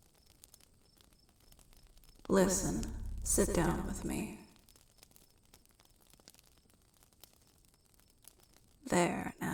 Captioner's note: echoing